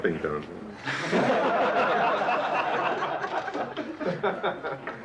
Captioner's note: group laughing